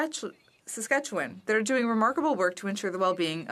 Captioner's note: speaking French